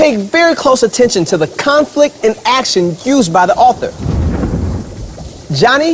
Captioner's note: thunder